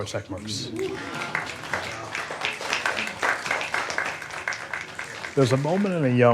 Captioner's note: applause